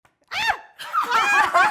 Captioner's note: laughs